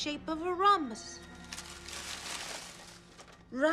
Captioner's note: paper shuffling